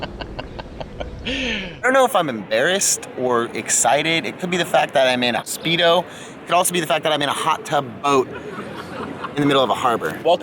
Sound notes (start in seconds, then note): 0.0 laughs